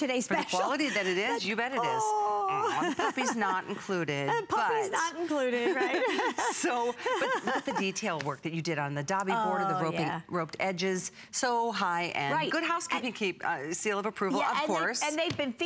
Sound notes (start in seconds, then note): 8.1 laughter